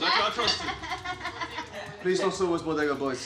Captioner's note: laughing